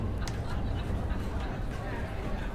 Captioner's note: indistinct chatter